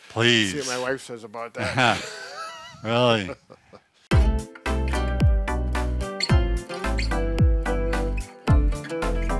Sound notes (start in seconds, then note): 1.5 laughs; 4.1 upbeat music